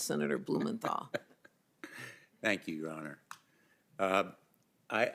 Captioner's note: laughter